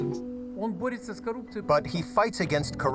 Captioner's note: speaking foreign language